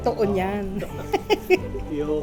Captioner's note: laughs